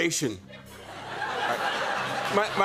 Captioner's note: laughter